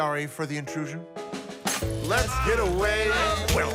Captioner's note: over sounds of beating; singing along